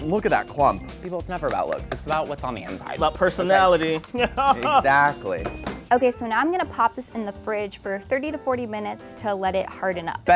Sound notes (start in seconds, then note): 3.8 chuckles